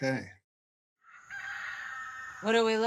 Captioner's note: roosters crowing